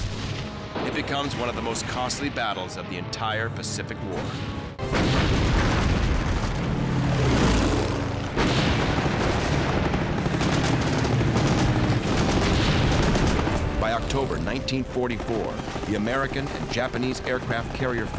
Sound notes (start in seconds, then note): 4.8 cannons firing